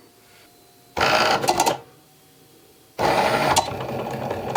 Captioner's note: machine whirs